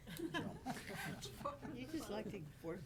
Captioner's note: board members laughing